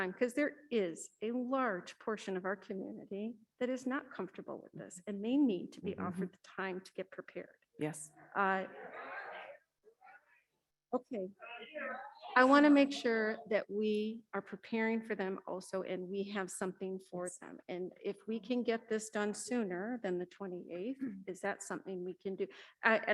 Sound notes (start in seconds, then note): 8.9 audience cheering